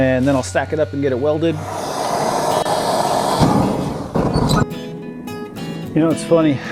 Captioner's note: welding and forge sounds